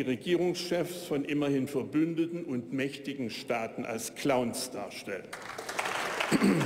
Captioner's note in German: Beifall bei der AfD